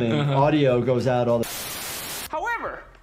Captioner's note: television fuzzing noise